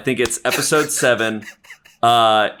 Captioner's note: softly laughing